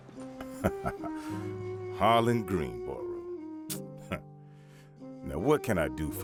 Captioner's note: laughs